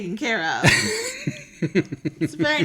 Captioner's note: laughs